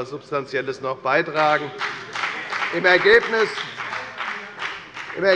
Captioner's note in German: Beifall bei der FDP